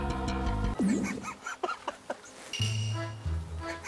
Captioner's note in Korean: 빵터짐